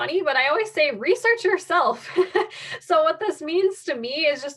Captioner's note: laughs